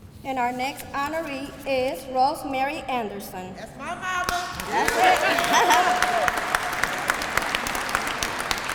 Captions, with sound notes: And our next honoree is Rosemary Anderson. [APPLAUSE]